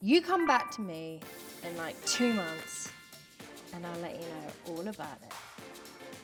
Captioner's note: notification sound